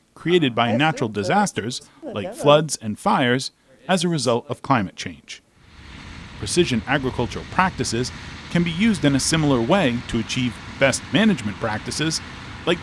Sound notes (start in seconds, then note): 9.4 tractor engine whirring